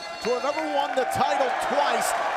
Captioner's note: bell ringing